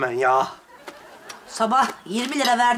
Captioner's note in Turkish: Gülme efekti